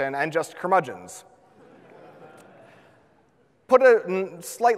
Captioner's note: audience laughs